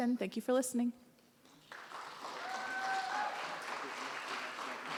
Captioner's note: audience cheers and applause